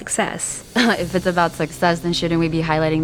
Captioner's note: scoffs